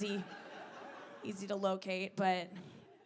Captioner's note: audience laughing